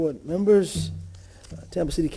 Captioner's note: sounding gavel